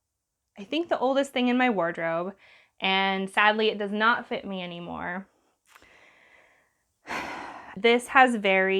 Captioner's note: loud sigh